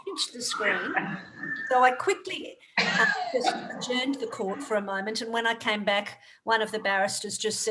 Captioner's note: laughter